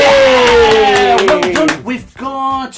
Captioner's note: cheering